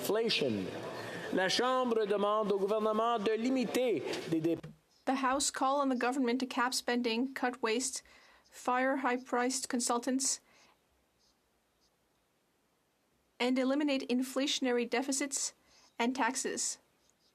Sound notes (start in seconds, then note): 7.5 speaking French